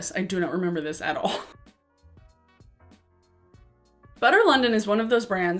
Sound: chuckles

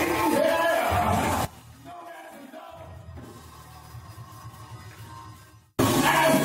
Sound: preaching in background

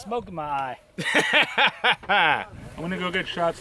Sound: laughing

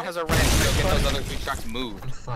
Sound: closer boom

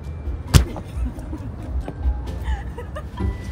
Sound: thudding sound; laughing

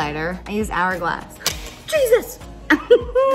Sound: highlighter drops; laughs

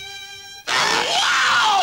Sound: stretching sound

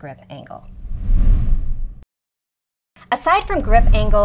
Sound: graphics sliding

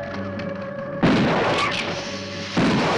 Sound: gun firing; hissing

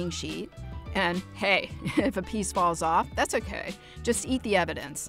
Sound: laughs

